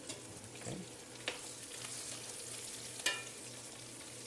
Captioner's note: sizzling